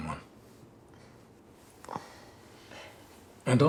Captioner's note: Grace sighs